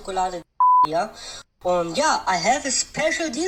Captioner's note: beep